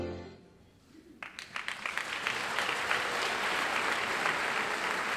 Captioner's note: audience applauding